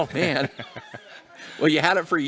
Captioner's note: laughter